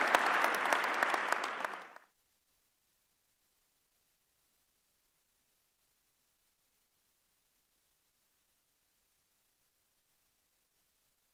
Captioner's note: applause